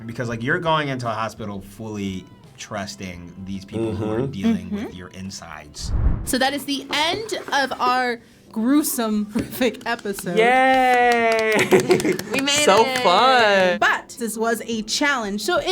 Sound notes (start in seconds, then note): 5.8 animation whooshes; 9.8 clapping